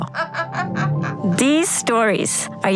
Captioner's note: laughing